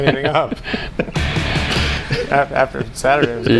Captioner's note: laughing